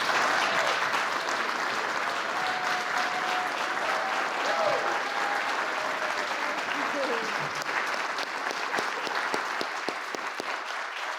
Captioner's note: applause